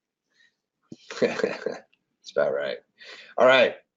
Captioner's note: laughs